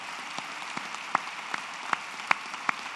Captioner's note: applause